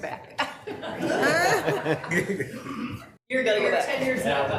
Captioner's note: all laughing